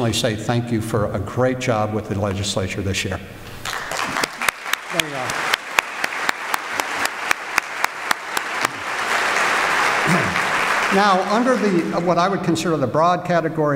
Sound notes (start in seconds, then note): 3.6 applause